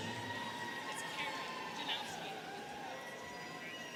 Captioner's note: students cheering